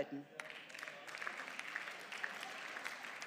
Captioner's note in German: Beifall